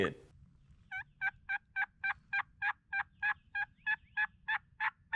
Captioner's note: turkey call chirping